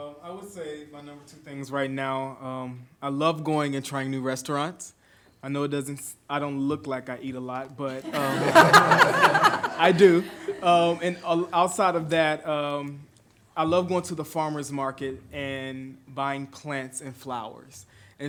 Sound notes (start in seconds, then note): 8.0 everyone laughs